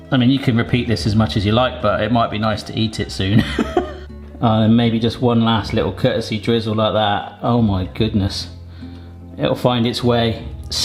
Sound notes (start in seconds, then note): 3.3 laughs